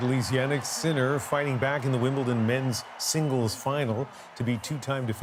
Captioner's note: cheers and Applause